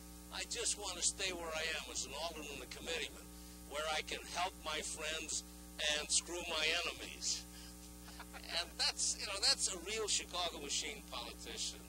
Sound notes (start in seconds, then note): 8.0 laughing